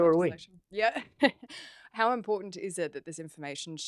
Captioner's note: laughter